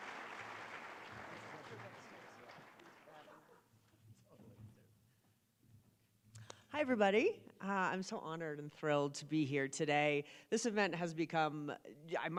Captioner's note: applause